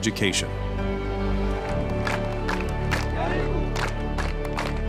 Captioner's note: clapping, chanting